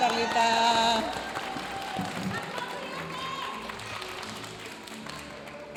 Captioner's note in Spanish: aplausos de la audiencia